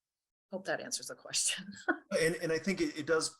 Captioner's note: laughs